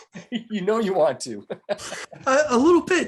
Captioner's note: laughing